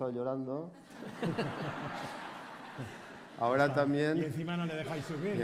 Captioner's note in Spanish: Risas